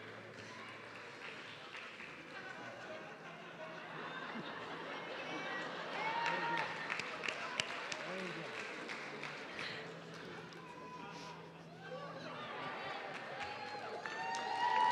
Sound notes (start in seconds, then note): 7.5 audience clapping